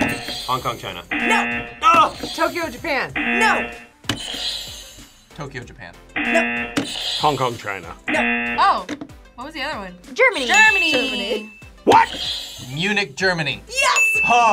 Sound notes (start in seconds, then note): 1.1 buzzer rings; 3.1 buzzer; 6.1 buzzer; 6.1 buzzer rings; 8.1 buzzer; 10.5 buzzer rings